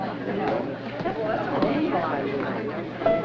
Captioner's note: chattering